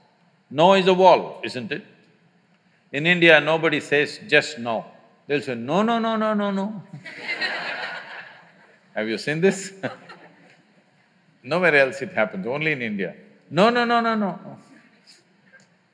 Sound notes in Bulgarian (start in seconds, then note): 6.9 смях